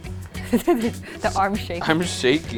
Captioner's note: laughs